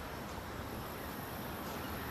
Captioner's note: birds chirping